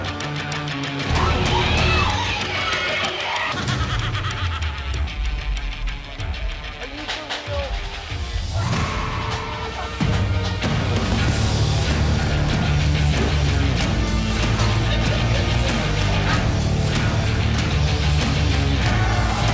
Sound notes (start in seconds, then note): 4.0 ghost laughs; 6.6 high energy music